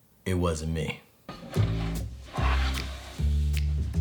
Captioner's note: board sliding